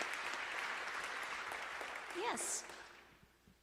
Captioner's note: applause